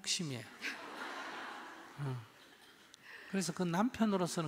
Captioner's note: audience Laughter